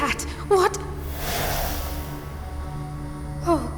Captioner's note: dissolving sound